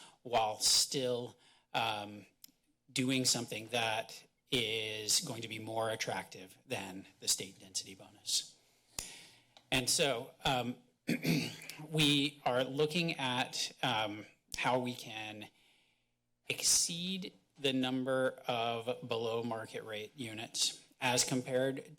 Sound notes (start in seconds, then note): 8.5 pause; 11.0 clears throat